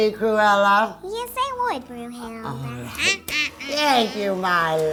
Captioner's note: laughing